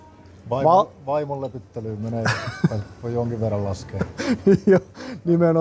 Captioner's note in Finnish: naurua